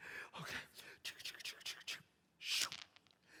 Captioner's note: dice sounds